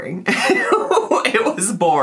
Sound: laughing

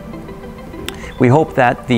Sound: lips smacking

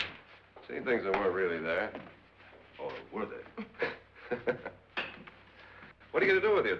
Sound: both chuckling

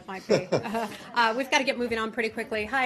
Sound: laughter

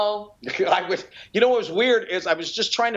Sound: laughter

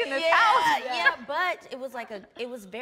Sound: laughs

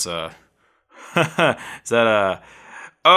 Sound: laughing

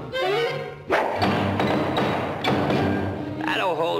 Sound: hammers nails in 60 fps

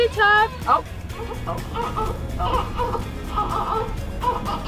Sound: crying

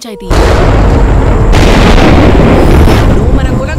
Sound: thunder rumbling

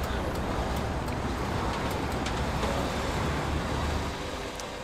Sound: engines humming

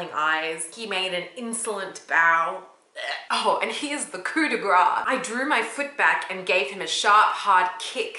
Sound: feins vomiting

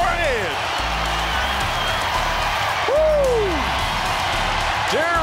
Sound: crowd applause

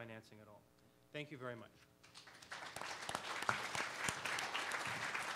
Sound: audience applause

